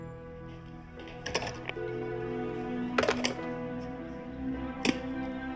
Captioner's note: phone clicks in receiver